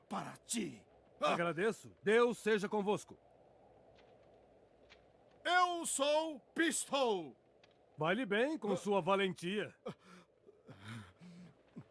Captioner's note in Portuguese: suspirando